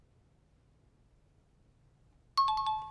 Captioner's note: times up ring